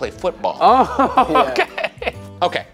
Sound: laughing

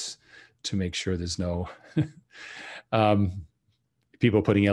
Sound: chuckles

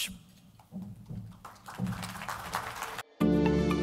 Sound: crowd applause; upbeat music

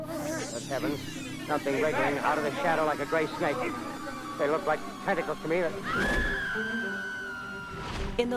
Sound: scream

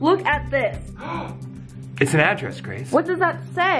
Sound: gasping

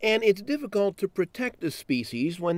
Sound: voiceover

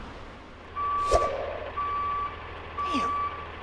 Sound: cars rumbling in distance; air whooshes; beeping

